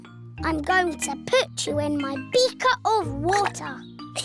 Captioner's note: none